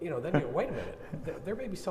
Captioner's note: chairman laughing